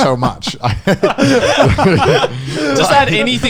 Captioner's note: all laughing